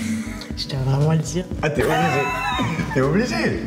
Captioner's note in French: rires